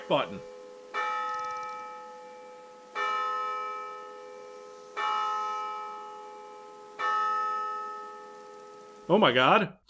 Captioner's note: bells